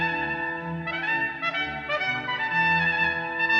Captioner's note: none